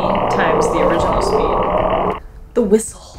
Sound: siren-like noise on top of deep, crackly noise

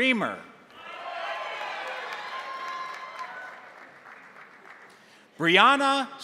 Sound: crowd cheering; crowd applauding

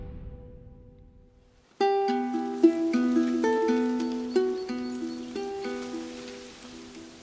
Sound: wind blowing through the trees

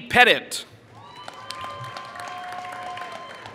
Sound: applause

